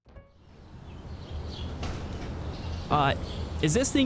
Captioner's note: birds twittering